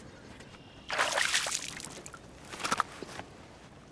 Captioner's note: fish splashing